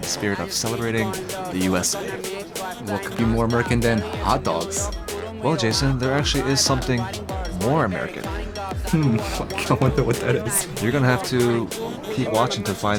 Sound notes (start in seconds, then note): 8.1 laughs